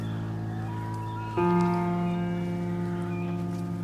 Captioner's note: owl calling